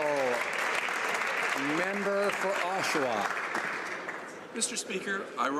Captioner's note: some Applause